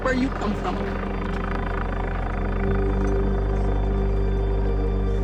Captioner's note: rotors whirring